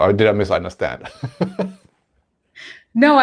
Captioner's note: laughing